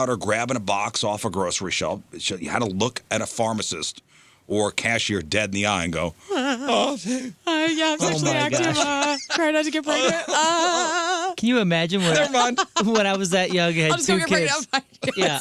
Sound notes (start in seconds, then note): 6.3 laughing